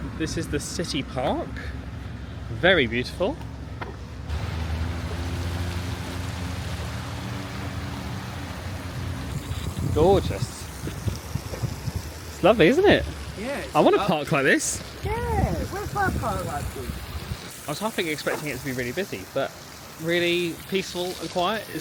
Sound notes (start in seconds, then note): 4.8 traffic passing; 4.8 water flowing